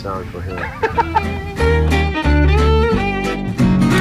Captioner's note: laughs